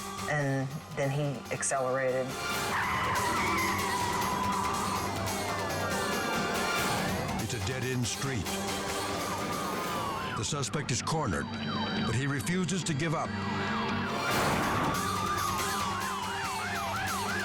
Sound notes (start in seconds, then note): 2.4 tires screeching; 5.1 sirens blaring; 13.1 sirens blaring